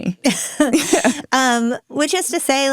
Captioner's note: people laughing